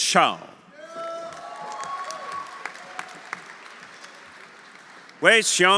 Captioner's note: audience cheering; audience applauding